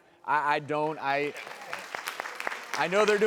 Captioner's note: applause